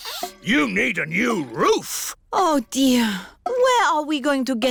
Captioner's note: sniffs